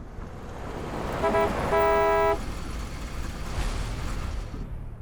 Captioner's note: honking